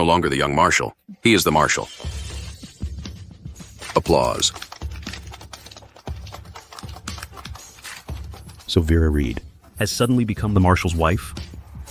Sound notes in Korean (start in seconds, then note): 3.6 박수